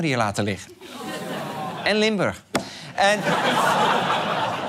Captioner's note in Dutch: gelach